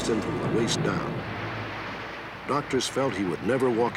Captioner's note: water splashes